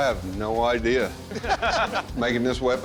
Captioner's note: laughter